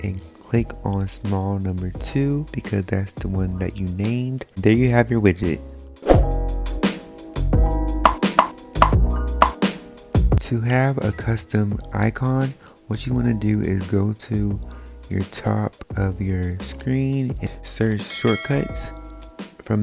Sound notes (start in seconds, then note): 6.2 groovy music; 8.0 popping